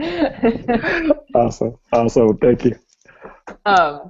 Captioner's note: laughing